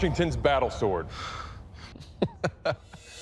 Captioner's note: chuckles